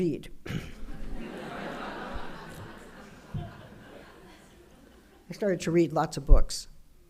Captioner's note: laughter